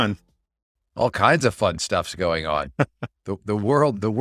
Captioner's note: laughs